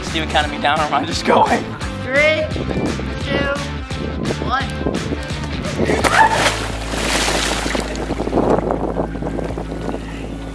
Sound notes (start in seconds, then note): 6.0 water splashing